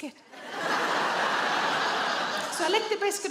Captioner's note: audience laughs